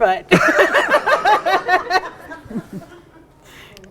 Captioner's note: group laughs